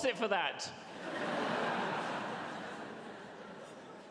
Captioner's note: audience laughs